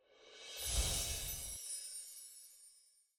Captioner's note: gently chiming bells